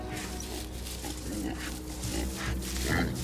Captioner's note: boars grunting